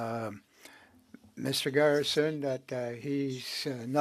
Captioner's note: speaking French